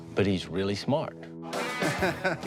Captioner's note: laughs